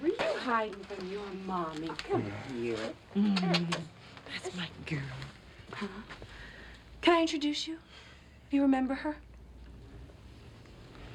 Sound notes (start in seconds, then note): 3.2 kisses